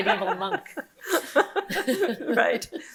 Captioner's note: laughing